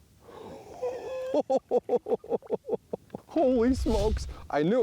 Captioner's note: excited laughing